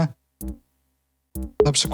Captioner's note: bzz bzz